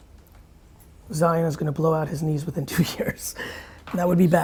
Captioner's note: laughs